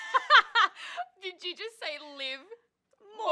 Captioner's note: laughter